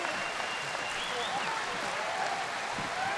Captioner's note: cheers and applause